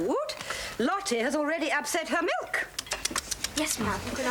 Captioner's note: tutting